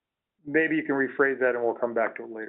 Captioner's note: voiceover